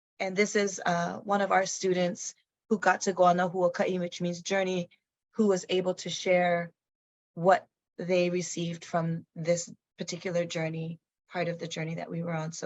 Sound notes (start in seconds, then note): 3.2 speaks in foreign language